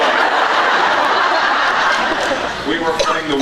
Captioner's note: laughs